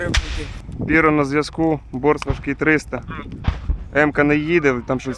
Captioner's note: over the radio